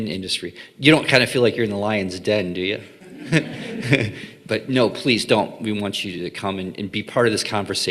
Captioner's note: laughing